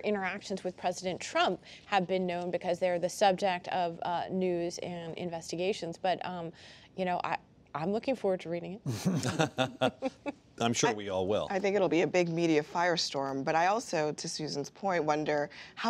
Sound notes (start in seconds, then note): 8.9 laughter